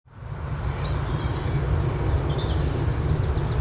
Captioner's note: birds chirping